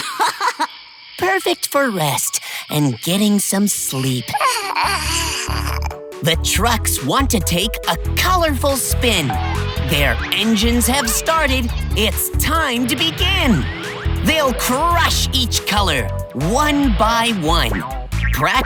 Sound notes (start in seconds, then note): 0.0 laughing; 4.3 yawning